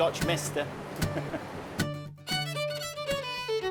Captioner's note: chuckling